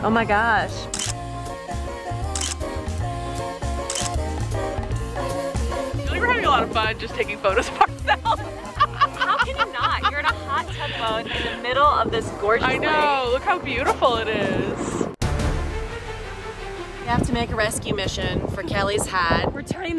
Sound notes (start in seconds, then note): 1.1 camera clicks; 15.1 dramatic music